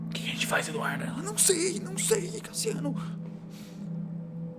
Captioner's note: whispering